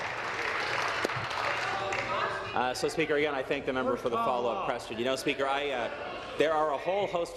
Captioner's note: applause